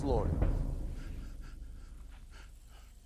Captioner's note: sobbing